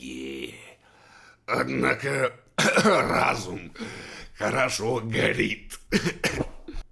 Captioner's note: cough